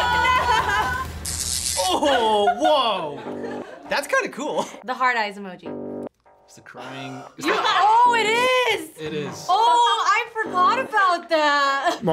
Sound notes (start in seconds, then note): 0.0 electricty crackles; 7.6 buzzer rings